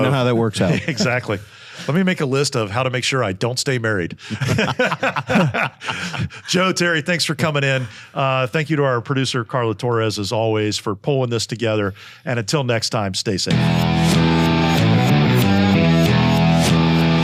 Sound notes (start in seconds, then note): 4.2 group laughing; 13.5 upbeat music